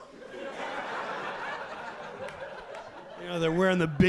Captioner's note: audience laughing